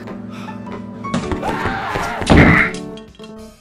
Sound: distressed 8-Bit Guy noises

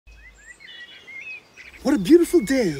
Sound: birds chirping

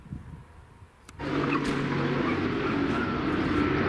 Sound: sound of military helicopters

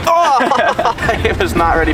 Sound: cries in pain

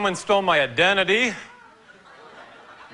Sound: laughter

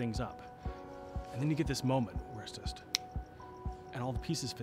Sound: snaps

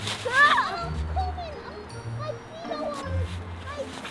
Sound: snow crunching

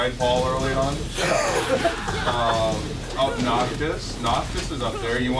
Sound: laugh

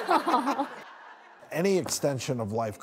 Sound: laughs

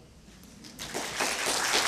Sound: applause

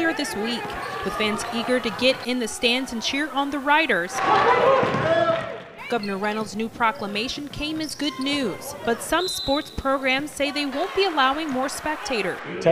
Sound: whistle

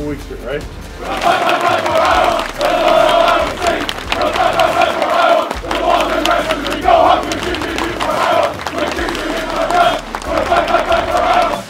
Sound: cheering

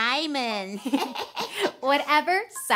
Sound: chuckling

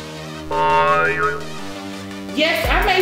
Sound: graphics boinging

